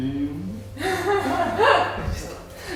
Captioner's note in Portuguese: risos